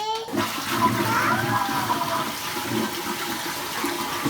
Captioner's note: flush Sound